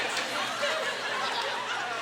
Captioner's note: audience laughter